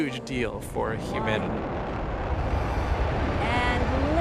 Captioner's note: rocket rumbling